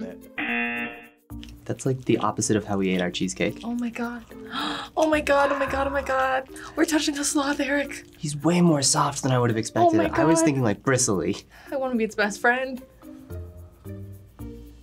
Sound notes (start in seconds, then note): 0.4 buzzer; 4.3 gasps